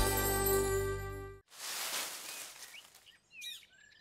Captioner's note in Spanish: Sonido de hojas; trino de aves